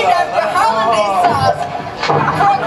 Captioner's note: portal gun fires